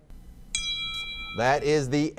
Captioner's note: bell rings